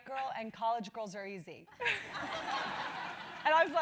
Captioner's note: laugh